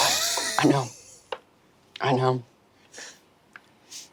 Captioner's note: Murph laughs